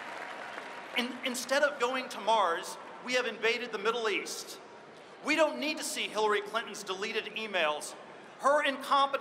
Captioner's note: applause